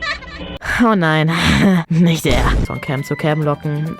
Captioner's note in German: Diva-Stöhnen